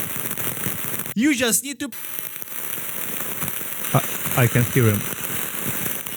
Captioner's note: static